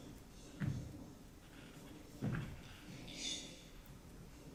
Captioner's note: footsteps thumping